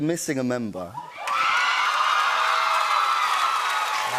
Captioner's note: cheers and applause